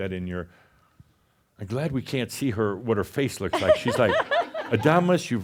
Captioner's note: some chuckles